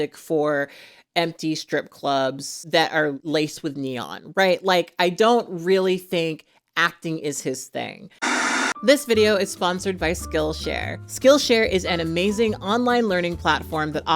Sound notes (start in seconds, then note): 8.2 static hisses